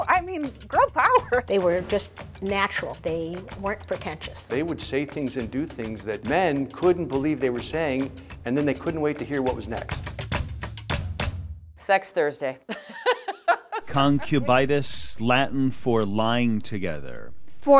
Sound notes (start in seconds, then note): 10.3 vigorous music; 12.7 laughing